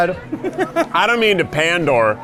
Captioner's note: laughs